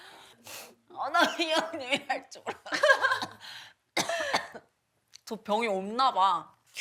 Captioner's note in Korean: 콜록 콜록